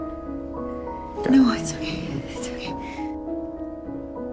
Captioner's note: voiceover